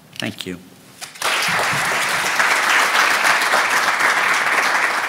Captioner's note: applause